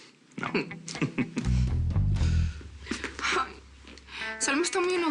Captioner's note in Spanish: Ríe